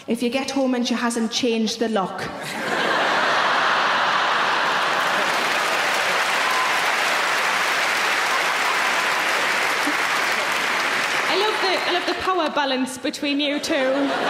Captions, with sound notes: - If you get home and she hasn't changed the lock. (audience laughing) (audience applauding) I love the power balance between you two.